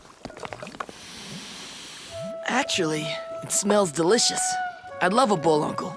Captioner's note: sniffs